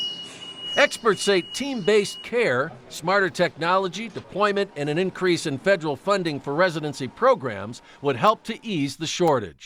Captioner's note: nats beeping